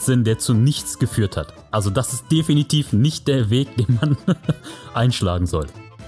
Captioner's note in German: lacht